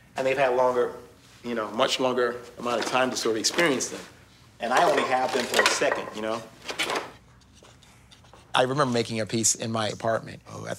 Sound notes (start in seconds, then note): none